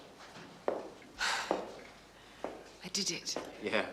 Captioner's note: sighs